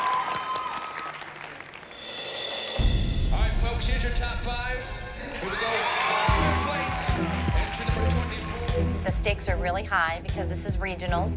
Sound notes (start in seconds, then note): 0.0 cheering and applause; 5.2 cheering